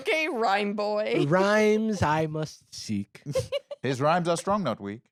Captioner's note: laughs